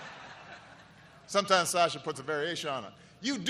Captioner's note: laughter